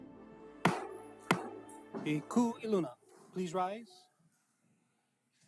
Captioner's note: gavel bangs twice